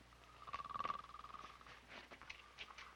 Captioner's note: Murdock snores